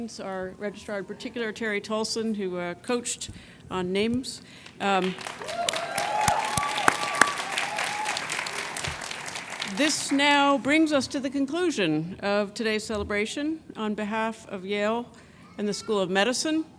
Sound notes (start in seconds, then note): 5.0 cheers and applause